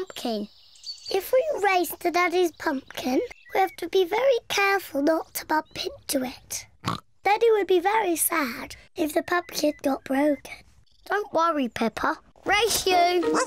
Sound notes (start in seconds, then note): 5.6 snorts